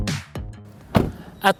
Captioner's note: door closes